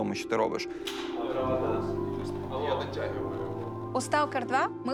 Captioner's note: indistinct chatter